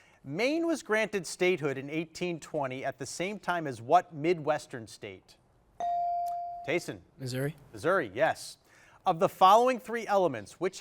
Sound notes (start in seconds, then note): 5.8 bell chiming